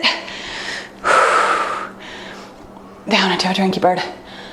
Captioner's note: exhales deeply